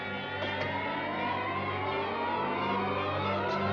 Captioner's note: thudding